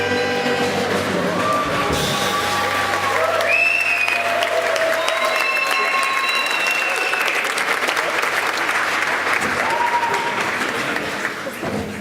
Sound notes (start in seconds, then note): 2.1 applause